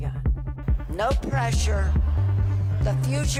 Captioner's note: cheers and Applause